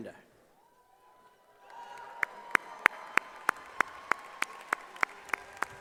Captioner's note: cheering and applause